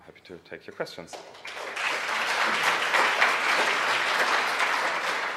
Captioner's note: audience applauds